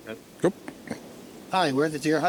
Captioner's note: clears throat